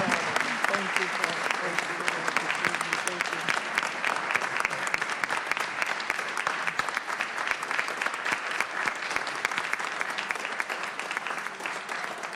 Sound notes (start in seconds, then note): 0.0 cheers and applause